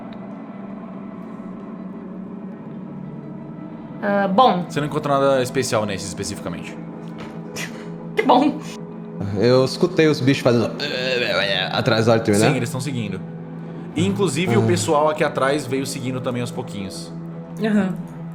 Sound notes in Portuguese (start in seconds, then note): 11.1 grunhidos